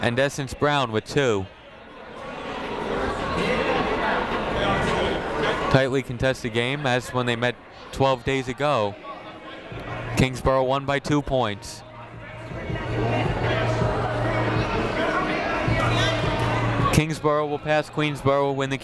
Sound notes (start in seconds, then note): 2.2 people talking in the crowd; 12.1 people talking in the crowd